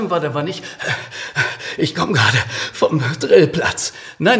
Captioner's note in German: keucht